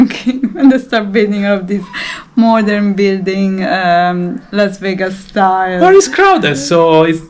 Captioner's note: laughing